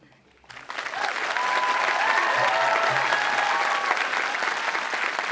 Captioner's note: crowd cheering and clapping